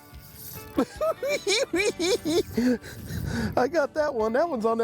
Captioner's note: cackling